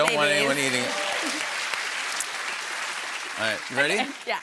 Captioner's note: applause